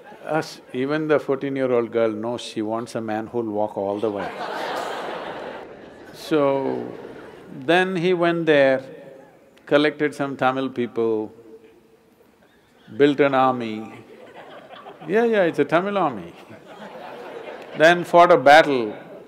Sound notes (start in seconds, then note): 14.0 laughter